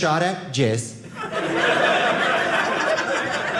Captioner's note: audience laughing